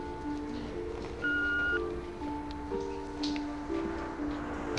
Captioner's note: beep